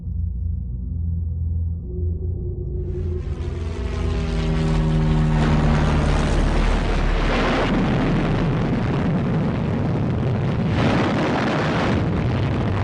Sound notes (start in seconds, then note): 2.8 airplane passes overhead; 6.7 explosion; 10.5 loud airplanes and explosions